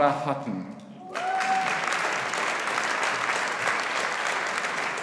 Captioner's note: audience applauding